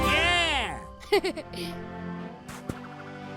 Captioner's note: laughs